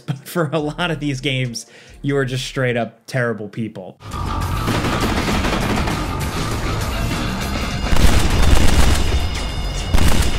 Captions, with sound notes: but for a lot of these games you are just straight up terrible people. (dramatic music) (gun fire)